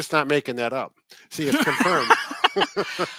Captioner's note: both laughing